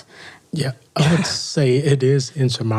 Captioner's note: laughs